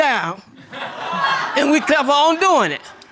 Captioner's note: audience laughing